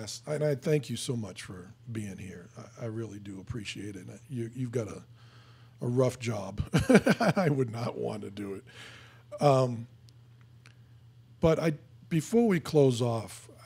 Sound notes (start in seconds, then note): 6.7 laughing